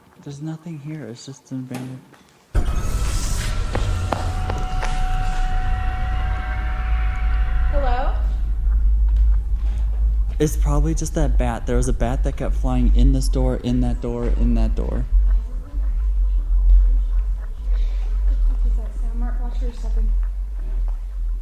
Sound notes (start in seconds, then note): 2.3 crashing; 2.3 creepy music